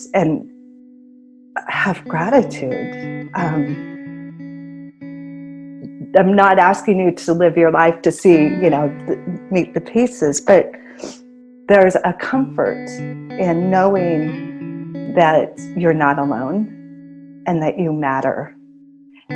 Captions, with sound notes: and have gratitude. I'm not asking you to live your life to see, you know, meet the pieces. But (sniffles) there's a comfort in knowing that you're not alone and that you matter